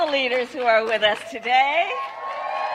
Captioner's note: applause